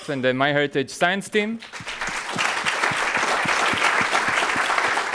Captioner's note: audience clapping